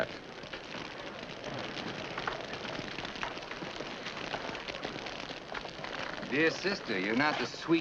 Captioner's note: fire crackling